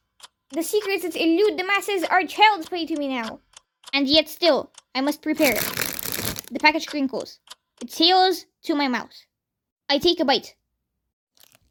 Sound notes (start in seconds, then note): 5.4 crinklll